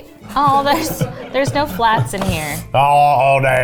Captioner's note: laughs